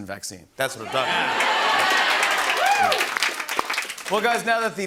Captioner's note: cheers and applause